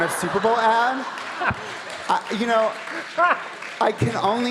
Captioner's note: audience laughing